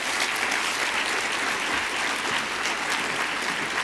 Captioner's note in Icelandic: fagnaðarlæti